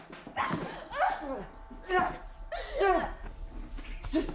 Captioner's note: both moaning